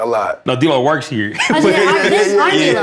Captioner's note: overlapping chatter